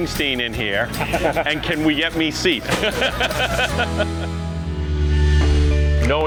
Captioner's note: chuckles